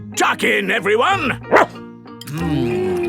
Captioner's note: barks